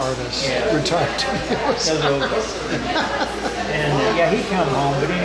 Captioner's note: laughing